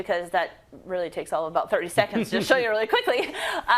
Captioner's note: laugh